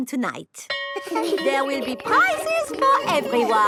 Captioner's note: school bell rings